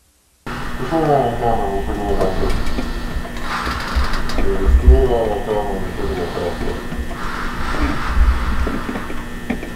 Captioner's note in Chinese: 交談聲